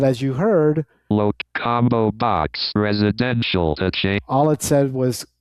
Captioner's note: automated Voice